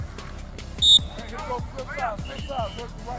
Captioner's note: whistle blows